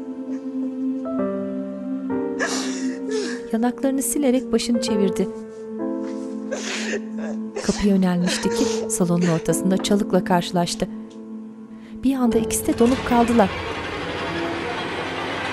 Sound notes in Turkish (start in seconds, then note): 8.2 Ağlama sesi